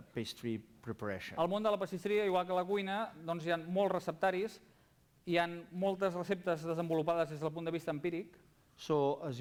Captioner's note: non-english speech